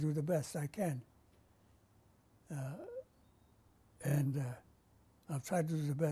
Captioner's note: pauses for 3 seconds